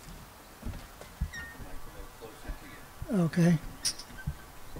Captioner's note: laughs